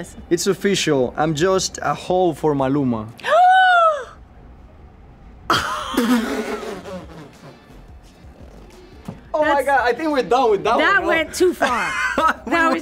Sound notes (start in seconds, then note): 3.4 gasps; 5.5 laughs; 11.6 laughs